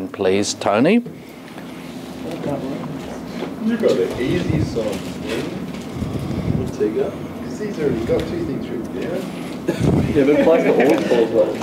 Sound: student chatter

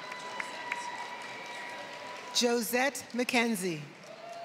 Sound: cheering; applause

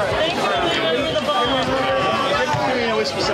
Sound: loud chatter

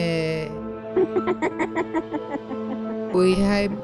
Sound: granny laugh

